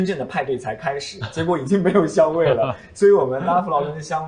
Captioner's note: hahahaha